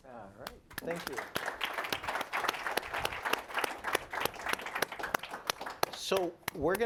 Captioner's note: applause